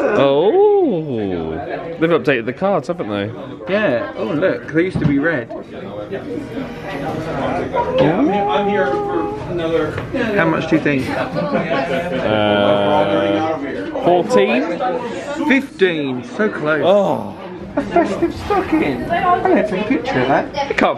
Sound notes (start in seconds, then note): 7.8 vocalizing; 18.3 sighs